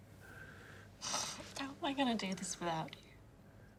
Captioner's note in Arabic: شهيق